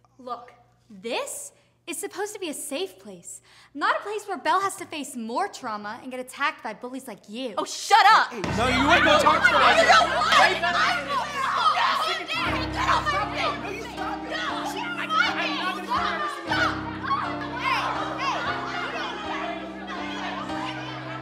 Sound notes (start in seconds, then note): 10.1 everyone screaming; 15.1 students screaming over each other; 17.2 somber music